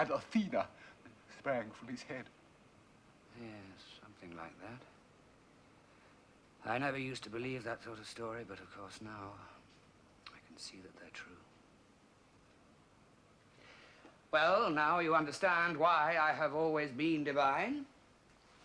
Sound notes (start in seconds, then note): none